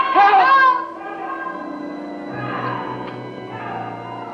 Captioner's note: echoing